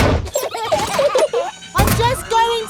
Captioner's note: children giggling